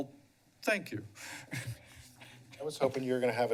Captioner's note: chuckles